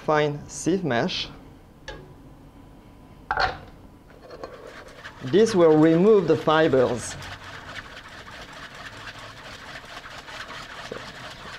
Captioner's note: whisking sounds